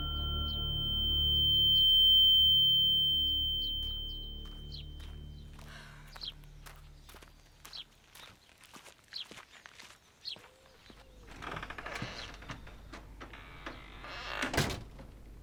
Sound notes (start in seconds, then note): 0.0 ringing intensifies; 3.2 ringing fades; 5.6 sighs; 11.1 door creaks open; 14.0 door shuts